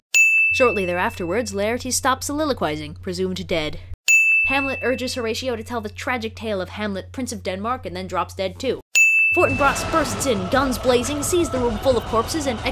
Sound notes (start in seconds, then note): 0.1 ding!